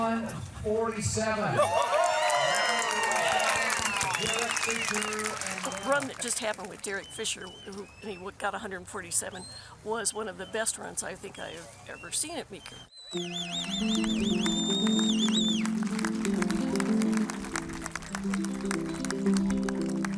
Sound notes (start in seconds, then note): 1.6 audience applauds; 12.6 whistling; 16.1 audience applauds